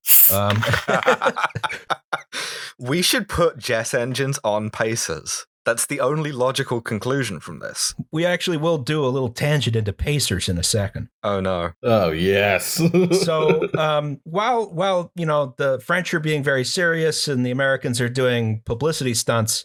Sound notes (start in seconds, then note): 0.4 laughter; 12.8 laughter